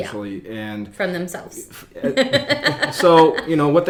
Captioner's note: laughs